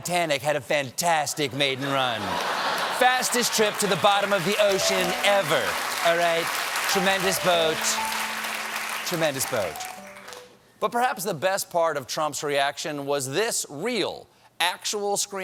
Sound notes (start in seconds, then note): 1.8 laughter; 9.7 applause; 9.7 piano riff